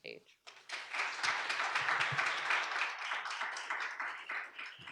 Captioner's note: audience applauds